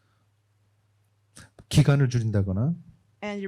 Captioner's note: speaking korean